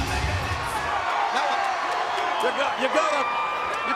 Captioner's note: audience cheering